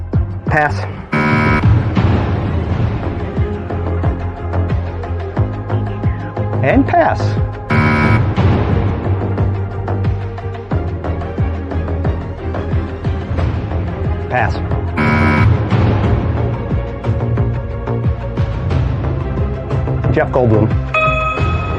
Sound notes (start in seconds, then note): 7.7 buzzer sounds; 15.0 buzzer sounds